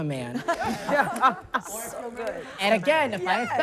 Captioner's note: everyone laughing